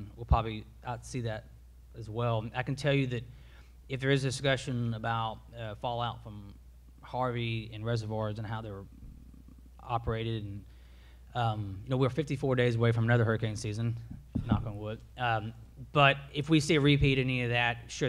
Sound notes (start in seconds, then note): none